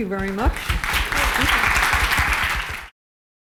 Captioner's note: applause